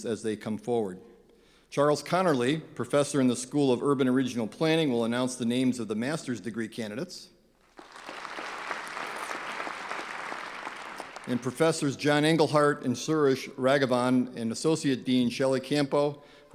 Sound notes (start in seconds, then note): 7.7 clapping